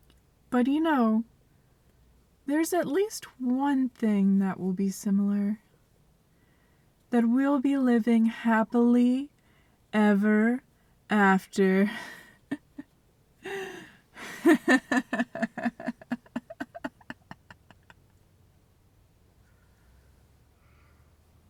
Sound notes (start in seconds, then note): 12.2 dorky evil laugh